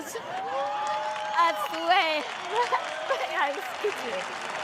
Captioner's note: cheers and applause